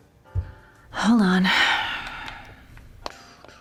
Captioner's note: sighs